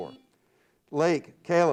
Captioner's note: buzzer beeps